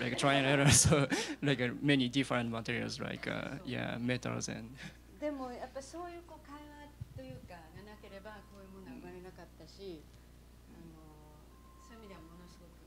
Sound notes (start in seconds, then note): 5.0 non-english speech